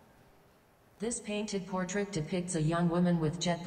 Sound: automated Voice

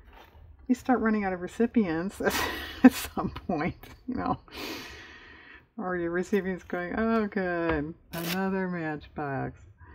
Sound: laughs

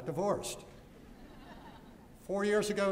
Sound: laughter

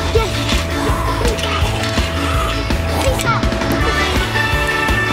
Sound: dad mimicking fingerboard whooshing

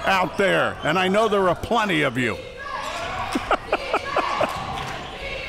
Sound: laughing

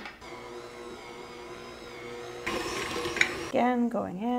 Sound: stand mixer whirring

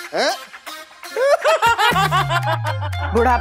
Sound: laughing

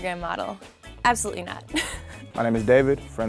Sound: laughs

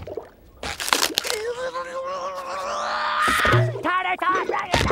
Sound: angry grunting

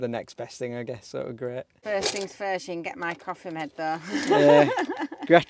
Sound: laughing

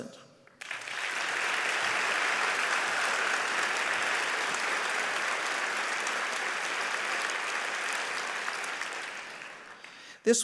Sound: applause

